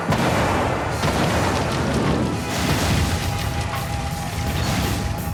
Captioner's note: explosion